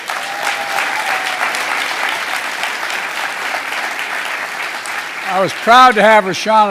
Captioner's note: applause